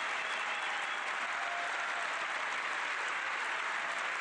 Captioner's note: cheering and applause